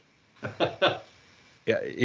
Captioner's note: laughs